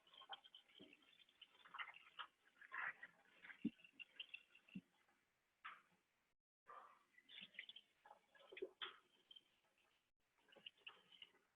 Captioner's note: tap water running